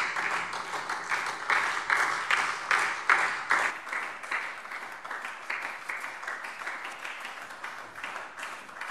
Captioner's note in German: Anhaltender Beifall SPD